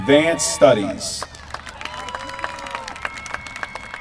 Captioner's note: applause